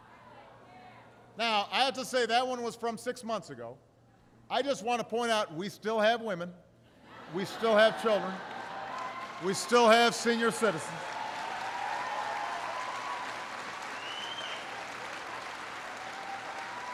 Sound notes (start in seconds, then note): 7.0 laughter; 13.7 applause